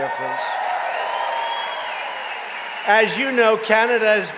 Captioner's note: applause